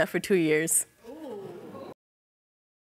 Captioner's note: audience exclaims